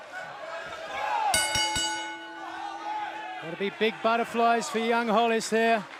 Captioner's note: crowd cheering; bell ringing